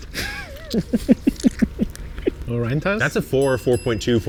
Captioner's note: laughs